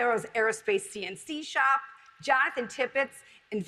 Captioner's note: none